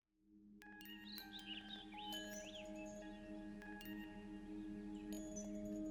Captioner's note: birds chirping; gentle music